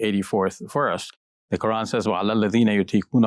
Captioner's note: speaking arabic